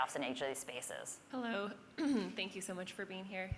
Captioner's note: cough